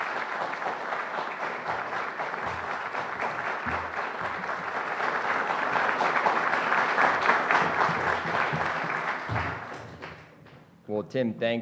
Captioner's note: applause